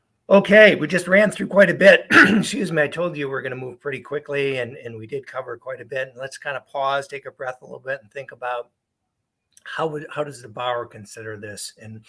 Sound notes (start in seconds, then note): 2.1 clears throat